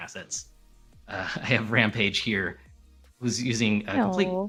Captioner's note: laughter